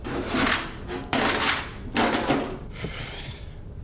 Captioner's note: rustling